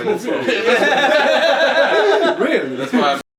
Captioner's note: laughing